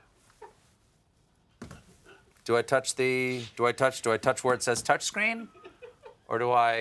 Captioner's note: laughter